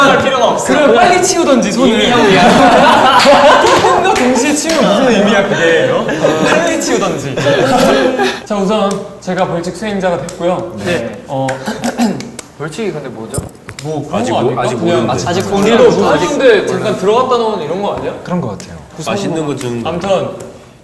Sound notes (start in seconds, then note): 2.4 aha..Hahaha